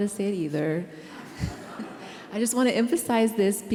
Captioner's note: laughter